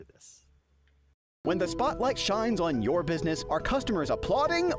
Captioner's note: voiceover